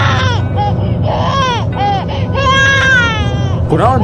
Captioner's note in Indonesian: menangis